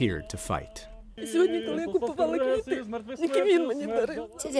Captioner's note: through translator